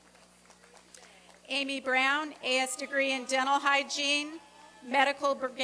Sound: applause

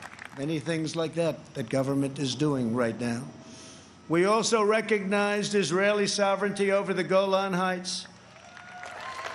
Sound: applause

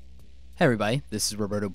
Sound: voiceover

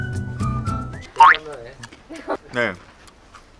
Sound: munching

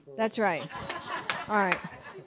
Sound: audience laughing

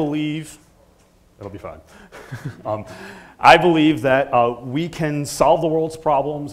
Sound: laugh

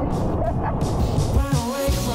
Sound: laughing

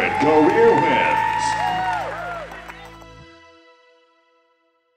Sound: cheering

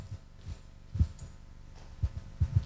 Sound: none

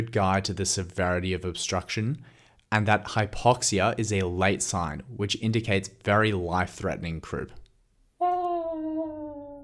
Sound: awhhhhhh

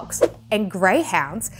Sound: graphics whooshing

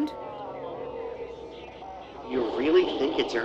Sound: distorted sounds

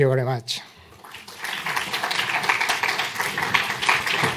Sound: applause

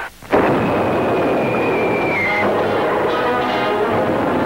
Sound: cannon booms; lively rousing music

